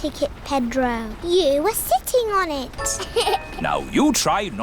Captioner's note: laughs